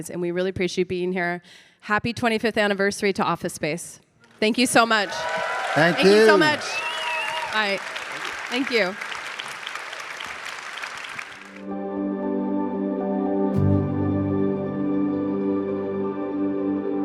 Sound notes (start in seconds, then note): 9.1 audience applauding; 11.6 shimmering music